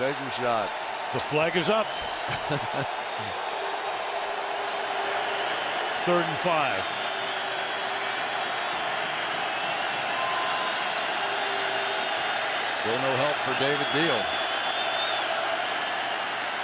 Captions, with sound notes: Go ahead, take your shot. The flag is up. [crowd clamoring] Third and 5. Still no help for David Diehl.